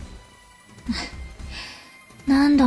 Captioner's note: sigh